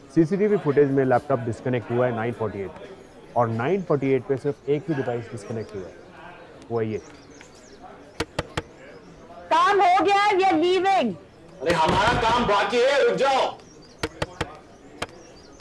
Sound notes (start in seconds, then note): 8.2 knocks on door; 14.0 knocks on door